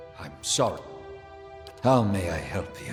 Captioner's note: click